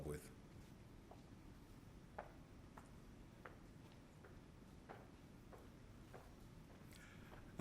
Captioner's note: footsteps